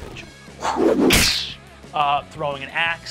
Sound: whooshing and clashing

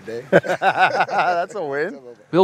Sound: laughing

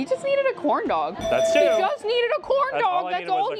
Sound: alarm rings

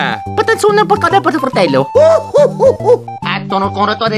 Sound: italian gibberish

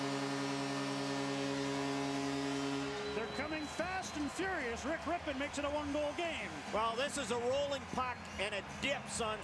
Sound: cheers, applause

